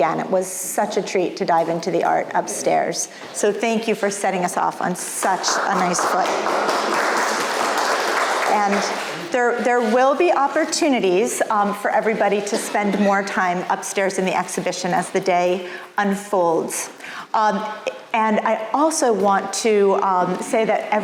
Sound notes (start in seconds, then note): 5.3 audience applauds